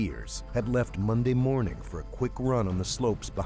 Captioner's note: voiceover